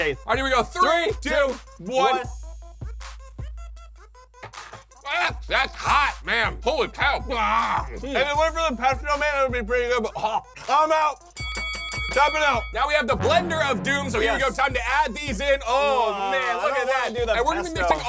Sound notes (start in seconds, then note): 10.4 choking; 11.3 bell dinging